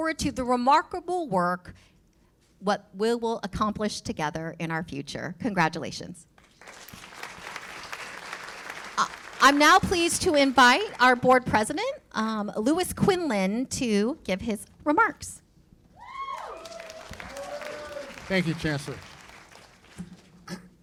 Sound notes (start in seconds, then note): 6.4 applause; 16.0 cheers and applause